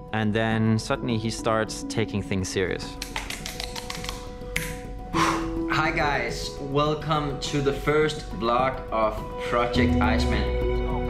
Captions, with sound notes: And then suddenly he starts taking things serious. [slapping] Hi guys, welcome to the first vlog of Project Iceman.